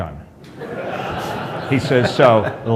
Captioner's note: laughter